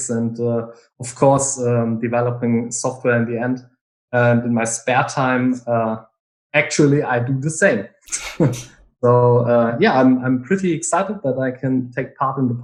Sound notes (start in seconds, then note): 8.1 chuckles